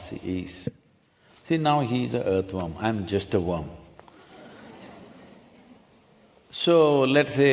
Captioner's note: few laugh